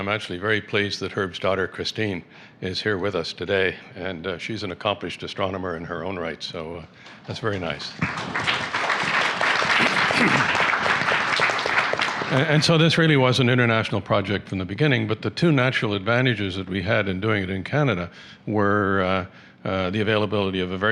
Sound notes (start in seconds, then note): 7.1 applause